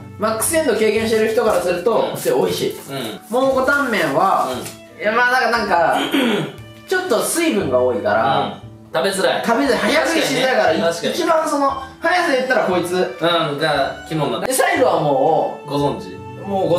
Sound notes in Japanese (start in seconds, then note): 5.9 咳払い